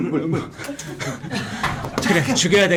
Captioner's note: sipping